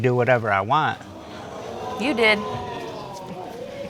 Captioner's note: audience gasps